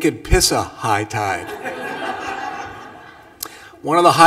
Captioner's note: laughter